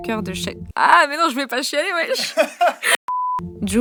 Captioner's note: laughs